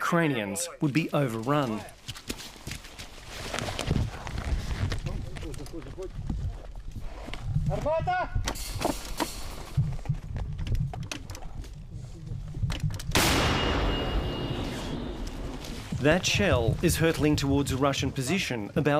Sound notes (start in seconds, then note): 8.0 yells in ukrainian; 13.1 cannon booms